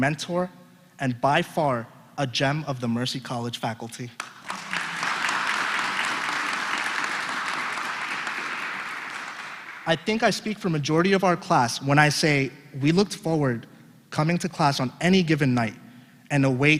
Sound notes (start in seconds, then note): 4.1 applause